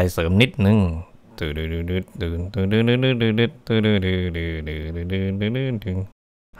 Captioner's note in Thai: ฮัมเพลง